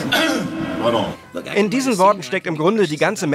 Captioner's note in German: räuspert sich